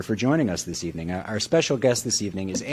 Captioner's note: none